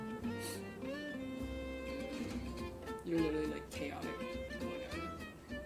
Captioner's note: sniffle